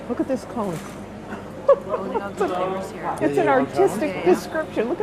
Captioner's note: laughing